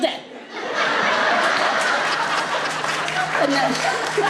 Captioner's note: group laughs